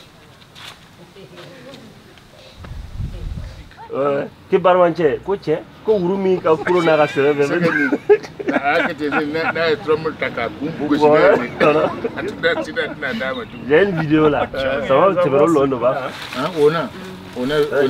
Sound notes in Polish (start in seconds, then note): 4.4 rozmowy w tle; 4.4 śmiech; 9.8 rozmowy w tle